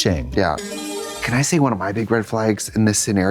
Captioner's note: bright chime